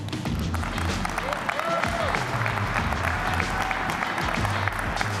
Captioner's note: applause